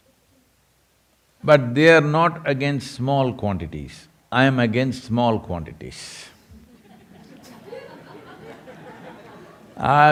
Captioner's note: laughter